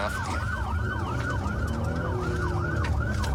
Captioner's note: engine guns